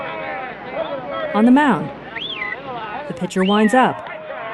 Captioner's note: whistling